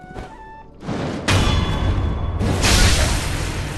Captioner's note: crashing